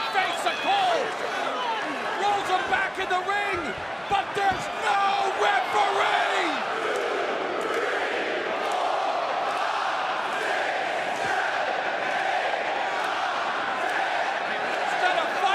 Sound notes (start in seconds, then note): 7.1 crowd cheering